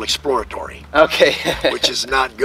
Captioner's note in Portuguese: risos